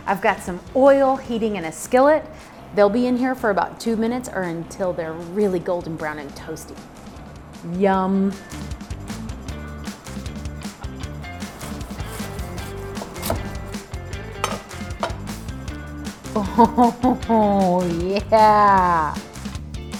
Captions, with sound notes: I've got some oil heating in a skillet, they'll be in here for about two minutes or until they're really golden brown and toasty, yum. (laughs) Yeah.